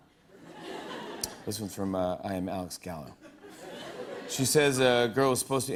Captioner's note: laughter; laughter